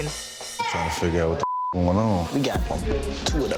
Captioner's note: beep